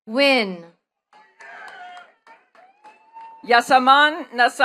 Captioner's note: attendees clapping